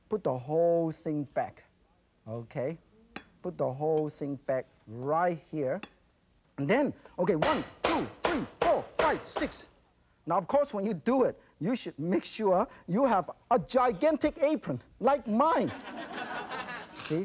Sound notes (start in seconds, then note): 7.4 chopping; 15.7 audience laughs